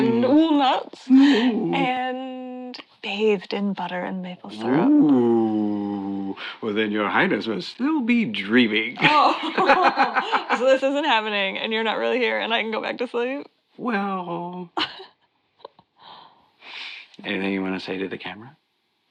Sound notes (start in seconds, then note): 8.9 Joanna and Tom laugh; 14.8 Joanna laughs